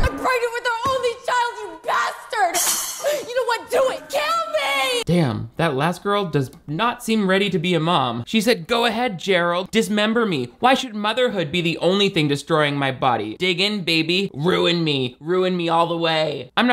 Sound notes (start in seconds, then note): none